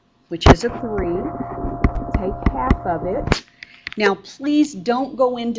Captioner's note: mic distorts